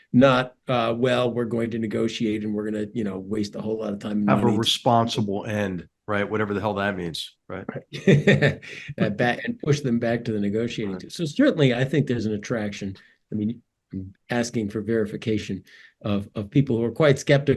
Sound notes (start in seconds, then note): 7.5 laugh